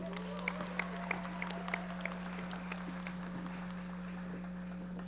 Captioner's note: audience members applauding